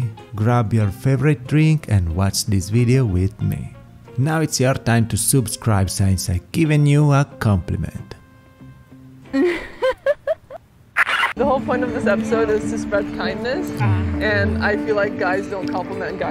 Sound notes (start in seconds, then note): 9.3 japanese girl giggles